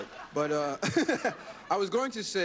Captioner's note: laughter